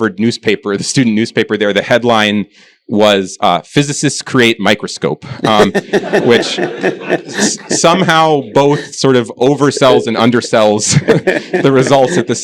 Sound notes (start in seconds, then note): 5.2 laughter